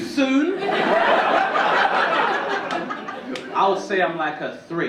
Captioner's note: audience laughing